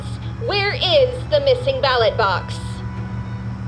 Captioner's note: radio